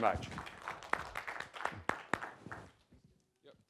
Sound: applause

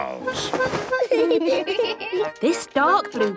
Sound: giggling

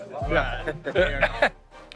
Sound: laughter

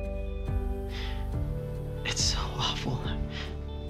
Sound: breathes sharply

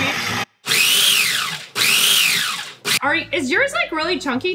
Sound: processor whirring; blender pulsating

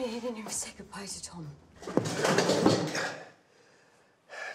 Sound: clattering

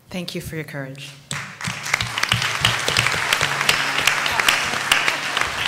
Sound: applause

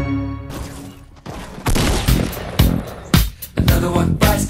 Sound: gaming noises

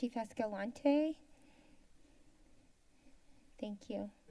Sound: silence

